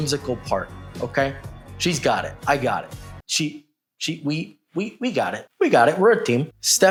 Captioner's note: stutters